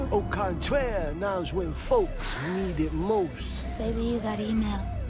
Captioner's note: none